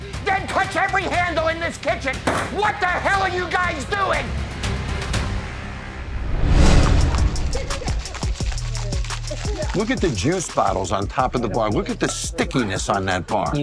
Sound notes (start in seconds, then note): 4.3 intense drum music continues; 5.7 air whooshing; 7.2 chill hip hop beat